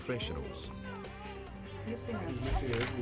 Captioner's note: baby cries